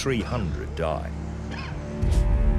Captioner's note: man coughing